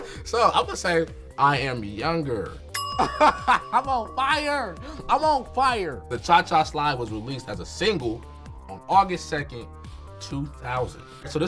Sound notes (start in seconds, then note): 3.1 laughs